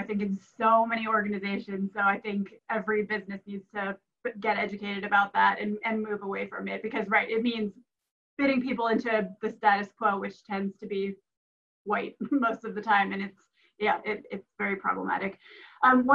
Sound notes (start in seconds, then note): 11.6 laughs